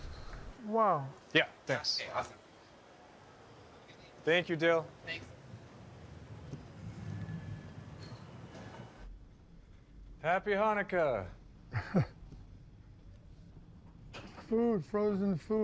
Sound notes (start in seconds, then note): 11.7 chuckles